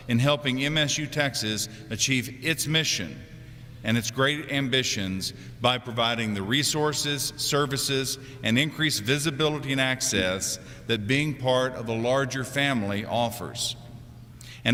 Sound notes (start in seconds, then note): none